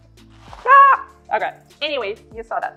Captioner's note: yells loudly